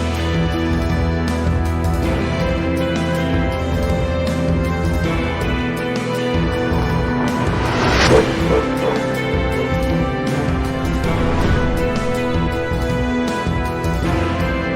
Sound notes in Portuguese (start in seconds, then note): 7.7 Cachorro rosnando; 7.9 Cachorro late